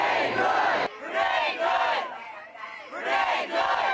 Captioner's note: crowd chanting; shouting; crowd chanting; shouting